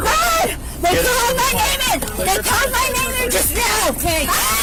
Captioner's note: suspect screaming